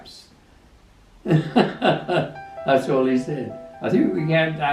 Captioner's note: laughs